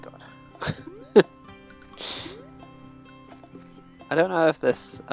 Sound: laughs

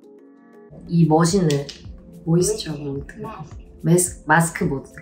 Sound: speaking foreign language

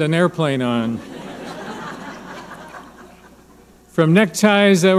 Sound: audience laughing

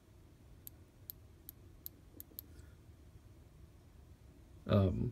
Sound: click click click

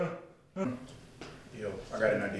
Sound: man gasping

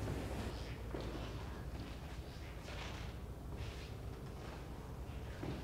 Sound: squeaky footsteps

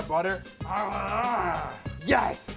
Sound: grunting

